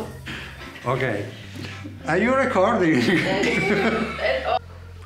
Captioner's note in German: Gelächter